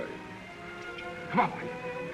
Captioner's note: clicking; classical music